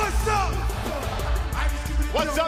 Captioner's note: crowd cheering